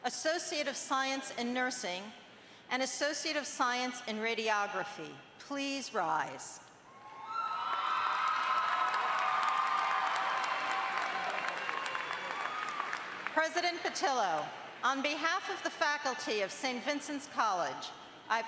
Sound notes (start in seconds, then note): 7.0 audience cheers